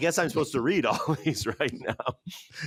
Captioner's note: laughs